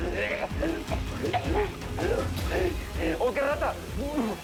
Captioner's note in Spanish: Toses